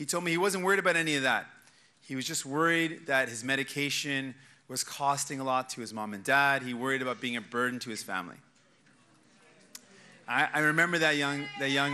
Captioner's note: cheers and applause